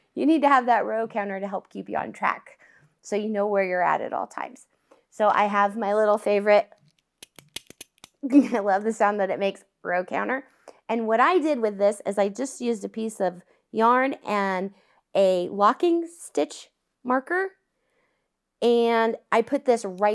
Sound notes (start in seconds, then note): 7.2 click, click, click